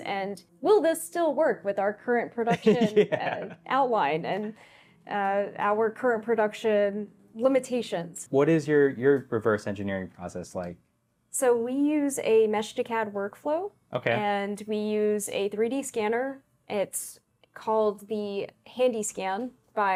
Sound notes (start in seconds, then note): 2.4 laughs